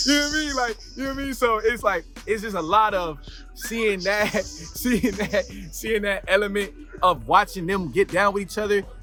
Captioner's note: laughs